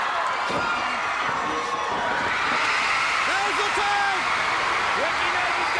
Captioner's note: crowd cheering